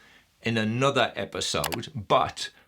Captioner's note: mouse clicking